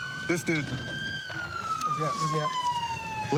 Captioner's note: siren wailing